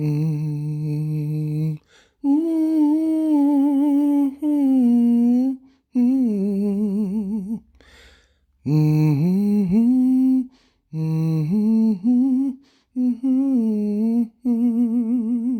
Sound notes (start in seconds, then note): 3.0 high humming